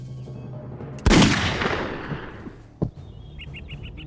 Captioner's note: gunshot blasts; tense somber music